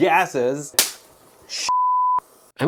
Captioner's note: pop